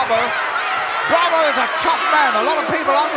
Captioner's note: audience cheering